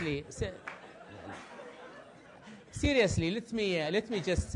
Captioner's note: laugh